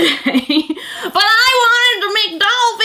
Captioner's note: laughs